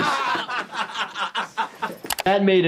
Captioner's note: Jackass crew laughs